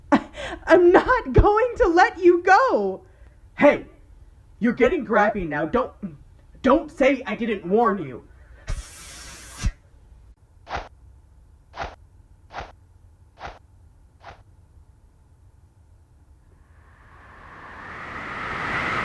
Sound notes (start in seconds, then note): 8.5 hissing; 16.6 wind blowing